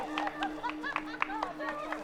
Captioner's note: cheers and laughter